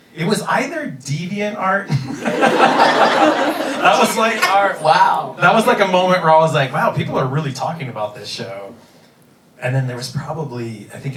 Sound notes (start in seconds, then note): 1.9 laughing